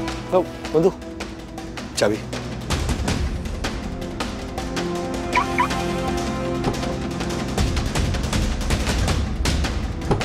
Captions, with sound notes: Vandu, the keys. [car beeps] [car door opens]